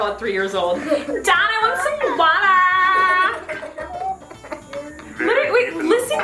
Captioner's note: laughs loudly